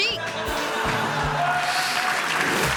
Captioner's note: audience laughing; audience clapping